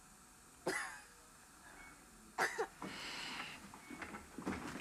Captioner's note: Cora coughs